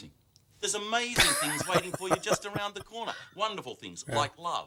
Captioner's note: laughing